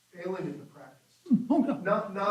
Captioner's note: chuckles